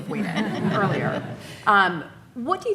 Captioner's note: audience laughing